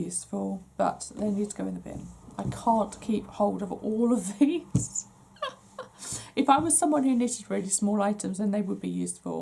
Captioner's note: laughs